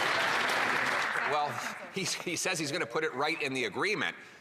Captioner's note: some Applause